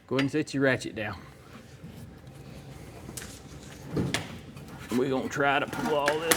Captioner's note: clanking